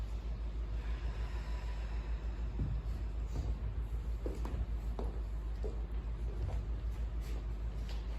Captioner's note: inhale; exhale